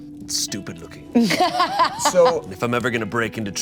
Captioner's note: Bug laughs